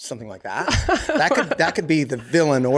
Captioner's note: laughs